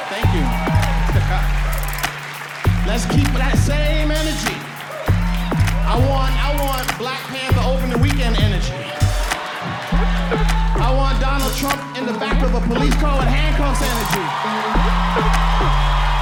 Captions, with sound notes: Let's keep that same energy. I want... I want Black Pantheropening weekend energy. I want Donald Trump in the back of a police car in handcuffs energy. [AUDIENCE CHEERING LOUDLY]